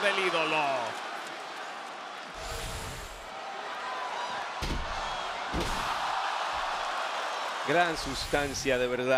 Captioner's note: applause